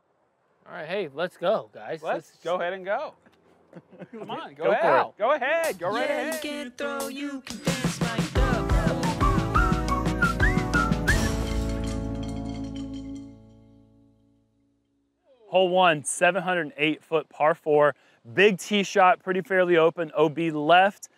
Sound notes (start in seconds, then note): 3.6 laughter